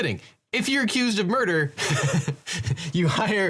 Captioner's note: laughs